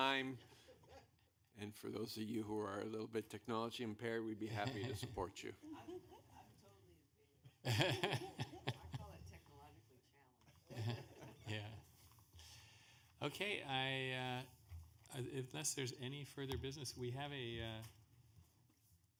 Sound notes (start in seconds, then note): 7.5 laughter